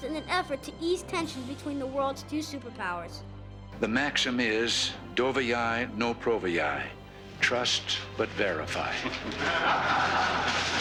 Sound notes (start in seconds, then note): 5.6 speaks Russian